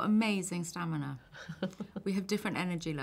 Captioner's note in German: lachen